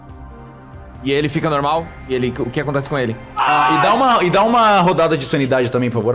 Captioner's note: screams